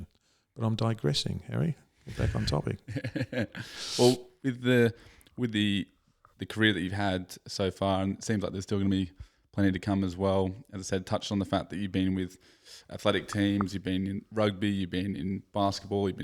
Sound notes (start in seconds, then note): 3.7 laughs